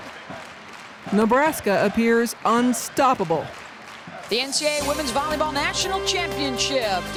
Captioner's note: clapping